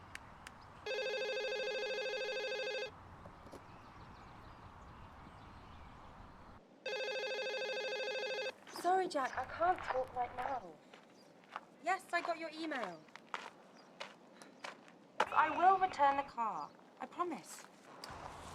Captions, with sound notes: (phone ringing) I'm sorry, Jack, I can't talk right now. Yes I got your email. I will return the car. I promise.